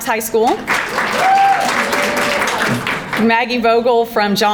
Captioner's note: crowd applauding